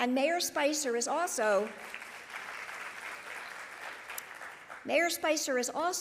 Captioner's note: audience applauding